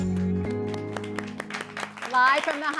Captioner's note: applause